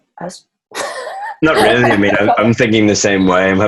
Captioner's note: laughs